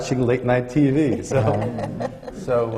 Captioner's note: laughter